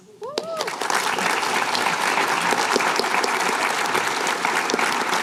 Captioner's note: applause